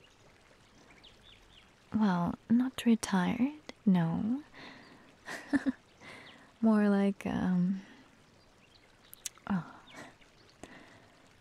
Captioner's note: chuckles